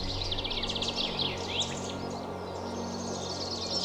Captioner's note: birds chirping